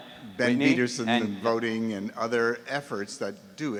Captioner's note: voiceover